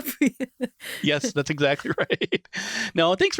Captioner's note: laughs